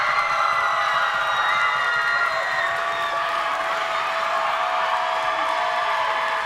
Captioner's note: thunderous applause and screaming